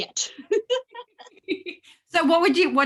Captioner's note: both laugh